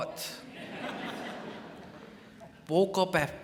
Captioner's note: crowd laughs